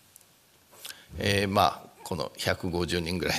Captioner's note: speaking japanese